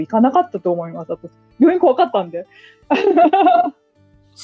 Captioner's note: laughs